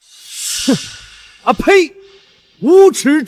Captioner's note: spits